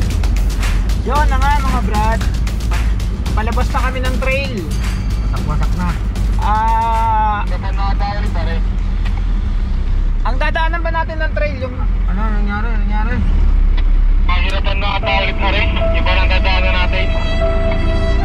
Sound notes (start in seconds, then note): 14.0 man over the radio